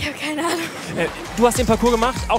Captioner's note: Plätschern